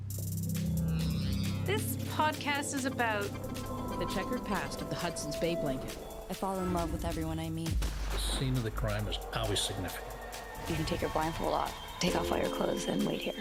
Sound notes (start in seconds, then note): 0.2 electronic beat; 7.8 loud gunshot